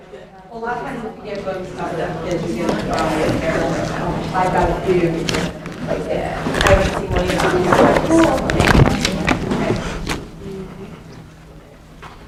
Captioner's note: chatter